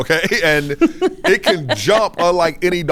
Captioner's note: laughing